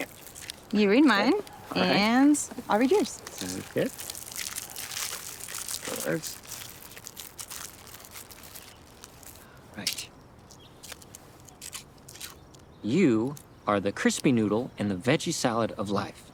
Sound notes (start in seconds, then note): 4.5 wrappers rustling